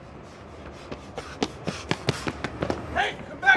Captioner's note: gasps; Mark panting